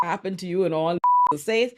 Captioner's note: beep